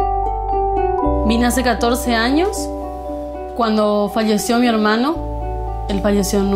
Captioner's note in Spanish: Voz de mujer